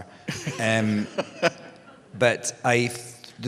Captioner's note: laughter